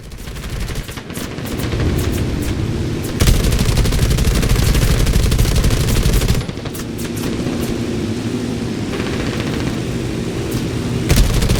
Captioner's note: engines, machine guns, flying sounds